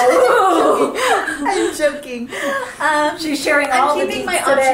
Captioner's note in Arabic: يضحك